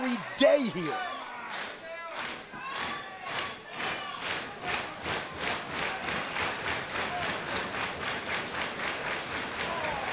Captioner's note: crowd cheering